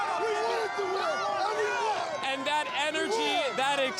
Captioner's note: cheers